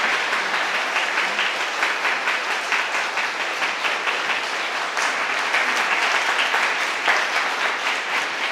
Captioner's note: applause from the audience